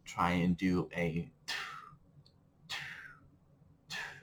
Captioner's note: expelling air